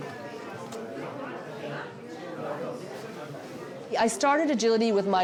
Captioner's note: booth personnel chatting